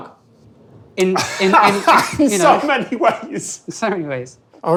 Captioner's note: laughs